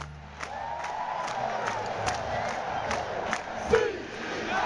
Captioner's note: crowd cheering; crowd